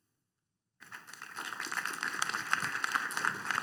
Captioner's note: applause